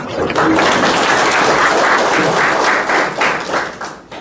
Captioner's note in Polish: oklaski